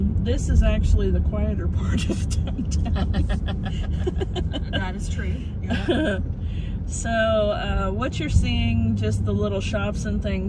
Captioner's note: all giggling, that is true